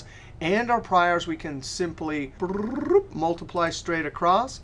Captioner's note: trills